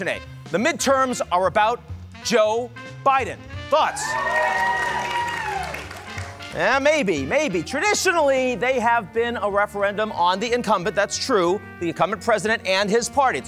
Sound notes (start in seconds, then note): 3.8 audience cheers